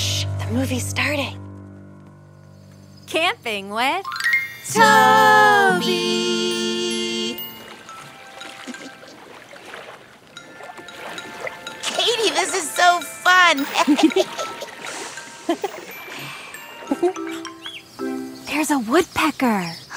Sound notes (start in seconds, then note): 3.8 playful music; 8.1 water sloshing; 10.5 gentle music; 13.6 laughing